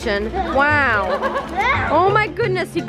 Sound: laughing

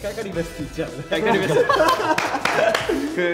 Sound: members laughing

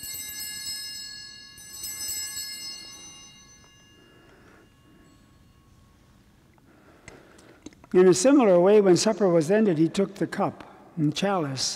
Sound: bellringing

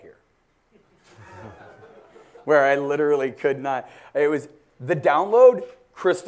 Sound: laugh

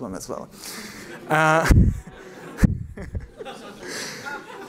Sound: laughter

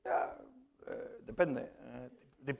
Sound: spanish

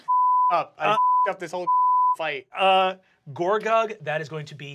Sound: beep

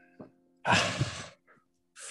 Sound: exhales

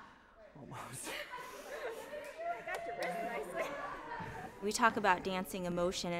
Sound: laughter

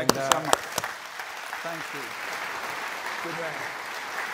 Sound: applause

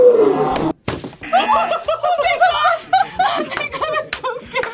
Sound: group laughs

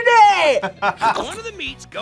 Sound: laughs

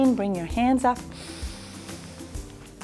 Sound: deep breath

